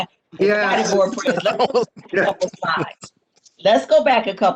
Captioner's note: laughs